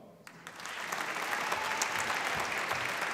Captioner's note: applause